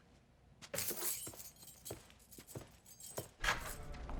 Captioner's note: keys jingle